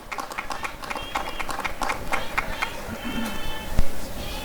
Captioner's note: applause and cheering